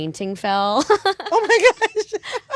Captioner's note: laughter